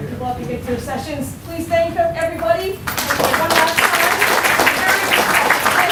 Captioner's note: clapping